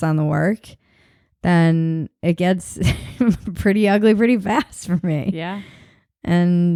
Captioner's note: chuckles